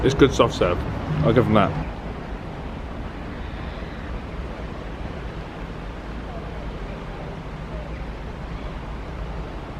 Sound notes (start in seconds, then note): 3.0 birds calling; 3.2 water burbles